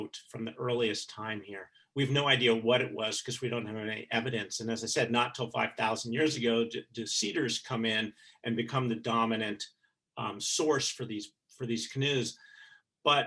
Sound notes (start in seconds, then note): none